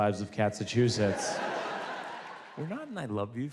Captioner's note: audience laughs